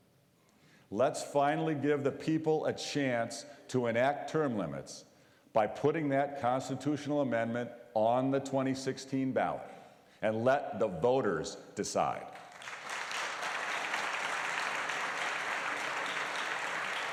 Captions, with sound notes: FRESH THINKING TO GOVERNMENT. LET'S FINALLY GIVE THE PEOPLE A CHANCE TO ENACT TERM LIMITS BY PUTTING THAT CONSTITUTIONAL AMENDMENT ON THE 2016 BALLOT, AND LET THE VOTERS DECIDE. (APPLAUSE)